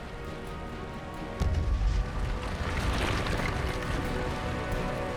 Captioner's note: lava exploding